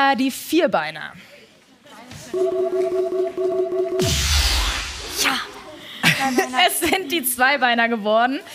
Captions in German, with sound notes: (Schwankende Musik) (Buzzer) Ja! Es sind die Zweibeiner geworden.